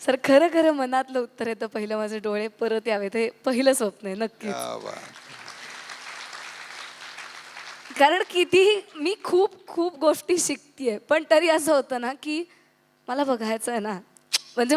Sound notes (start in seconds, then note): 4.5 audience applauds